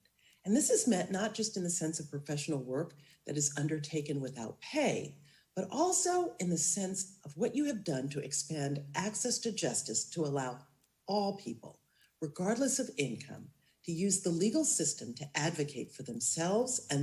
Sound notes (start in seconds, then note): none